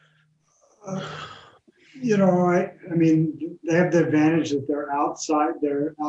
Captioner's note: breathes heavily